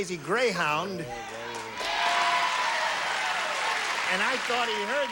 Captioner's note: audience cheering